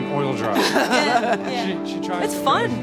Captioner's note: laughing